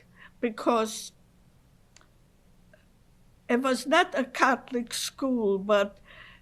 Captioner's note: pauses for 3 seconds